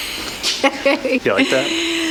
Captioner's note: laughing